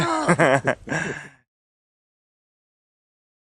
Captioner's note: laughs